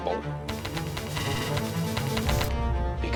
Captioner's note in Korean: 경고음